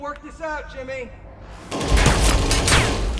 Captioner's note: bullets ricochet; distant rifle shots